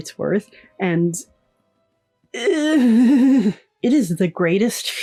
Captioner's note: pain noises